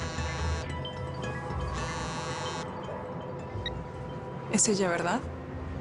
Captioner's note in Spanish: Zumbido de un celular